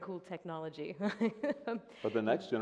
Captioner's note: laughs